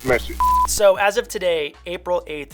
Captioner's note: beep